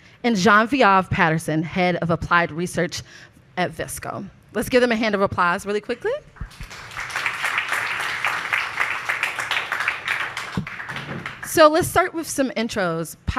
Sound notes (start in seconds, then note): 6.4 audience applauds